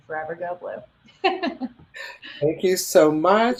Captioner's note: laughing